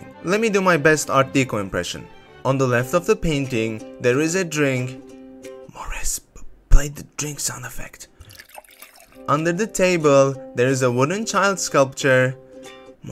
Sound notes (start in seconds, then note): 5.1 whispering